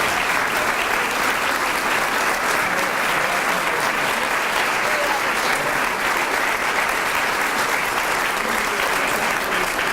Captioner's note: applause